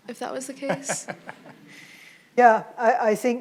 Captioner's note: participant laughs